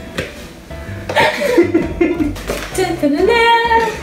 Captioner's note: laughs